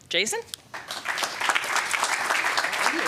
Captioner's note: applause